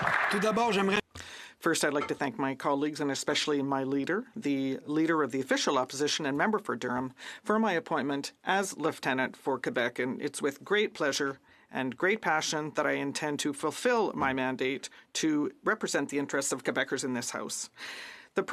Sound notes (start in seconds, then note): 0.0 some Applause; 6.6 speaking French